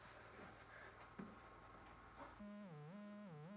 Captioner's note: line buzzing